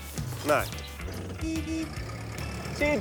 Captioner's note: meep meep